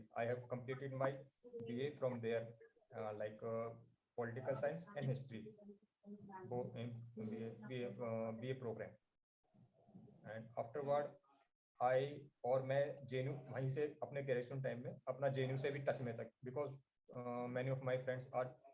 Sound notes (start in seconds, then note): 11.4 foreign